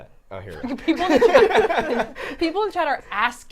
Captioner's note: all laughing